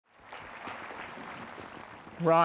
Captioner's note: graduates and participants applauding